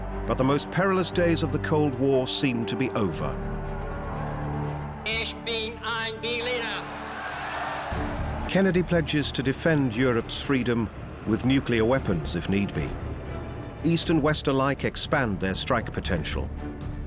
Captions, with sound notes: But the most perilous days of the Cold War seem to be over. -Ich bin ein Berliner. -[crowd cheers] Kennedy pledges to defend Europe's freedom.. with nuclear weapons if need be. East and West alike expand their strike potential.